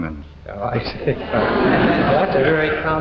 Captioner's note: audience laughing